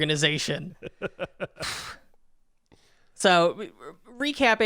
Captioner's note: chuckling